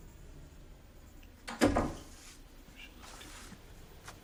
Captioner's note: whispering